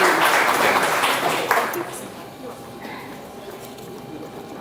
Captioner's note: audience chattering